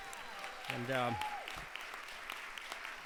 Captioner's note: crowd cheers